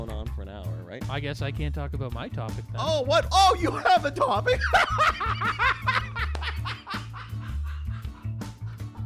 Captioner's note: laughs hysterically